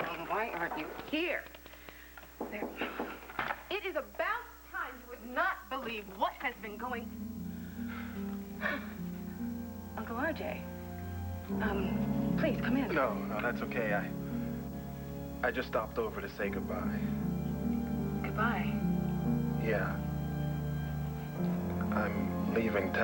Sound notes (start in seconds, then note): 2.4 knock on door